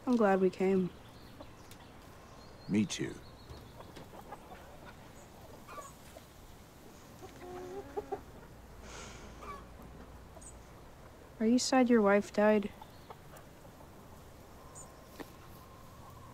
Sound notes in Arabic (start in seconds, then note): none